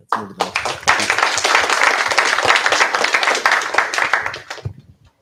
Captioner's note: applause